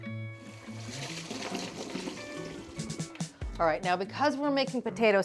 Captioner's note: water sloshing